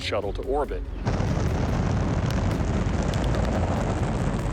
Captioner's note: rumble